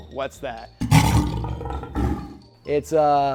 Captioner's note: lion roaring